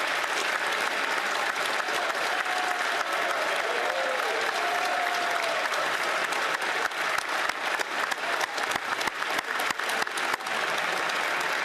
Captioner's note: applause